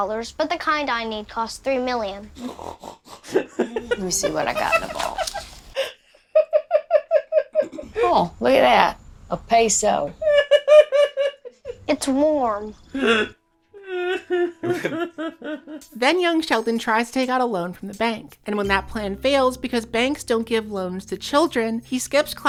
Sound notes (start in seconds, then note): 3.2 giggling; 10.1 still giggling; 13.8 giggling more